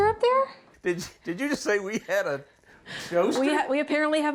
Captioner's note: chuckles